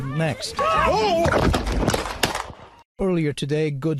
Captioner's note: gunshots